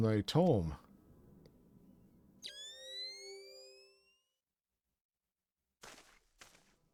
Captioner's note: chimes